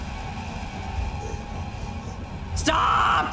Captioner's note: monster grunts